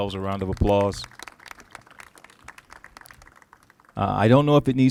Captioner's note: applauses